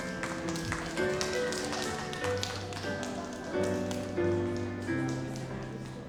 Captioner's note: audience cheers and applauds